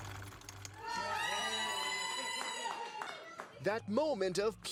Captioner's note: typewriter keys clack; group yells